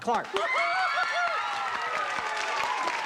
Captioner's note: cheering, applause